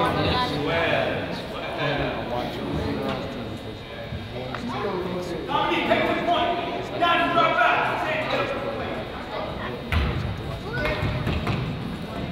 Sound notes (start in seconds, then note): 0.9 crowd chatters; 0.9 referee yells